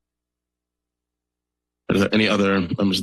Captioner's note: silence